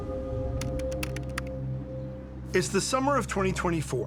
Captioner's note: letters clacking